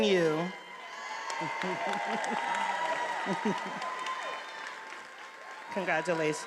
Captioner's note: attendees applauding and cheering